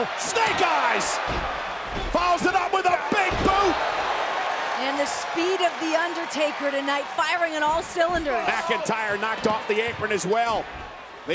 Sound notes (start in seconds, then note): 3.9 audience cheering